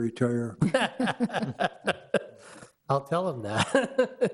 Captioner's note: men laugh